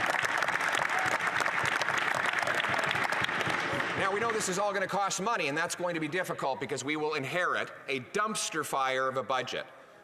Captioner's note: applause